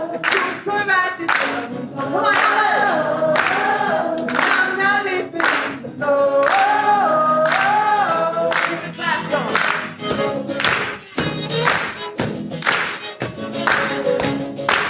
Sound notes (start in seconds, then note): 9.1 audience claps; 12.2 violin solo